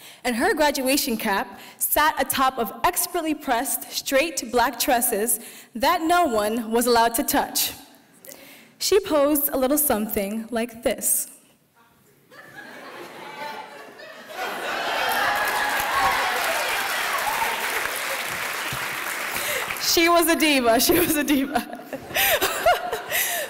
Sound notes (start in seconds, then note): 12.3 laughing; 15.0 applause